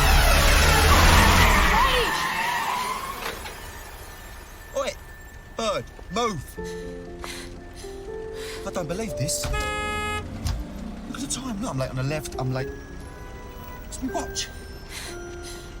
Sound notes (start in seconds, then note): 1.8 tires screeching; 9.0 honks horn